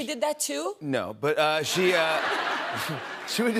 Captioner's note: laughter